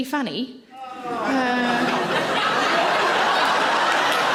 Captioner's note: audience laughs